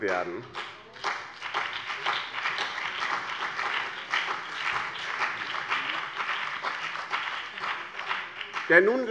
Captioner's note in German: Beifall BÜNDNIS 90/DIE GRÜNEN und CDU